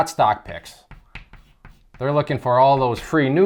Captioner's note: chalk writing